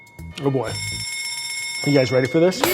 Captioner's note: alarm ringing